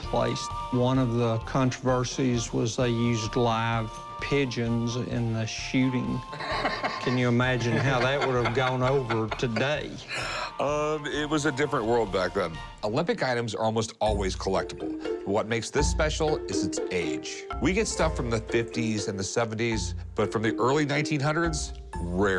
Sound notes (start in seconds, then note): 6.3 laughs